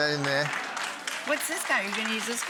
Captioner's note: audience applauding